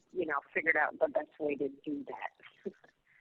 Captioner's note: laughs